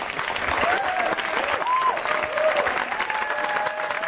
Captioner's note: applauding